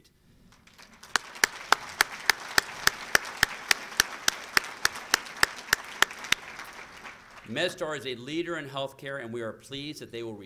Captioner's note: applause